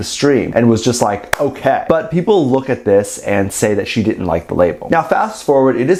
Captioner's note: clap